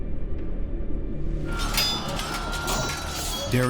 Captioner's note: commotion